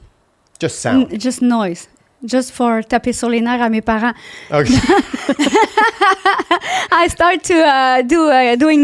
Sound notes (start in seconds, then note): 2.3 in french; 4.6 laughing